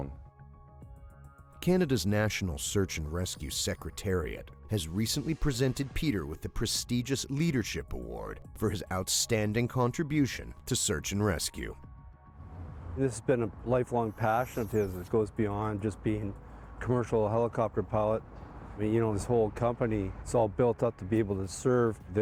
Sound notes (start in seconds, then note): 11.8 voiceover